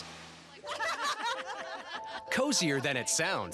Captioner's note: laughter